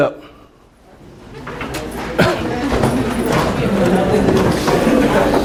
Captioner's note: attendees talking